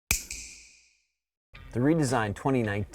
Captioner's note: snap